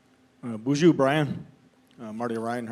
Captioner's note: speaks in native language